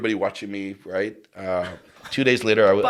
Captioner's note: chuckles